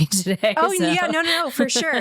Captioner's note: laughter